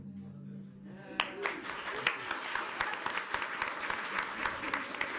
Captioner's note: audience applauds